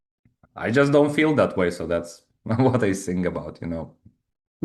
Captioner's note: chuckles